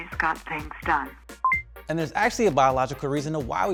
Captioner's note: digital beeping